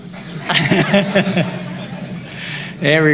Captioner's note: laughter